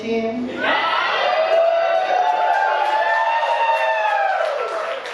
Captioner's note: audience cheering